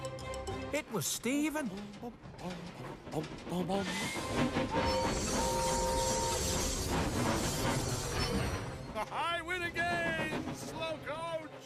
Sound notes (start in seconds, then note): 2.2 humming; 5.4 toot-Toot!; 8.6 laughs